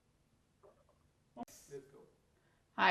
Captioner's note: hebrew